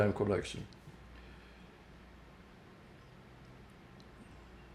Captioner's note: pauses 11 seconds